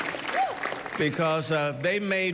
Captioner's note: cheering